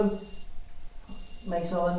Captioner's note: beeping